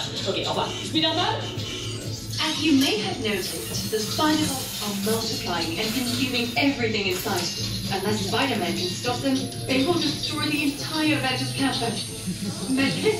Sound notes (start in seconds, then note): 2.8 in English, then French